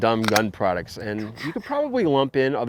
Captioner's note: imitating gunfire